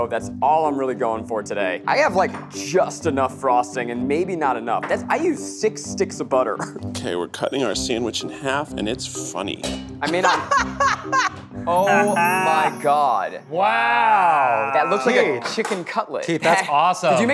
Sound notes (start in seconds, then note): 10.2 maniacally laughing